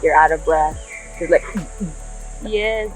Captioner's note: mimics contraction sound